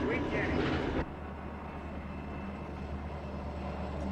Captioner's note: vocalising stops, train rumbles